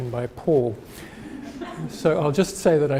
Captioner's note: audience laughing